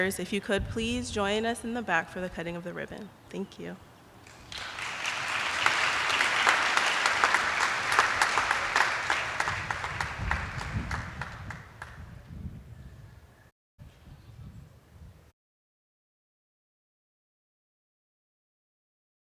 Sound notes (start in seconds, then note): 4.2 attendees applauding